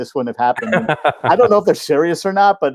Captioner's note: laughing